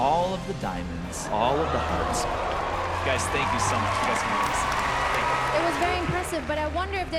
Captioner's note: cheering